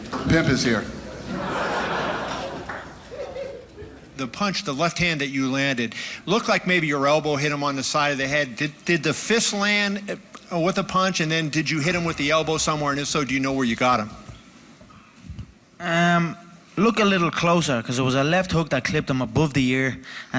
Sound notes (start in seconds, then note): 0.0 applause; 1.0 laughing